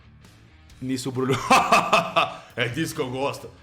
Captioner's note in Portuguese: risada